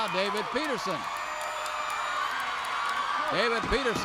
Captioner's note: crowd cheers